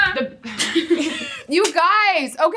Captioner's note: chuckling